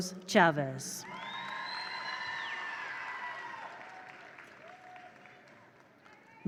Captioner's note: attendees cheer; attendees applaud